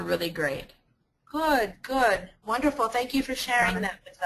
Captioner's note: voiceover